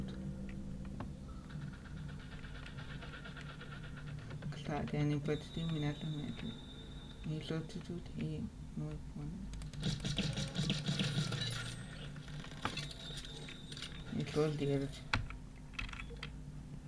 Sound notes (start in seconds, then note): 5.2 disturbing music; 9.8 shots